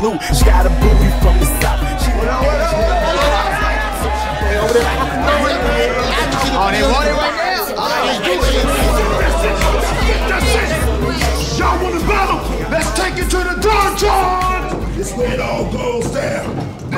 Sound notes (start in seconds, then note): 4.1 shouting